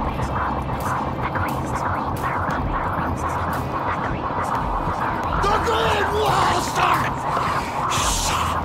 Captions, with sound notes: (voices murmuring) The green walls are